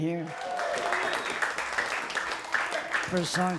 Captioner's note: crowd claps